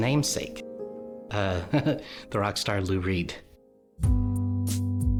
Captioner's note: laughs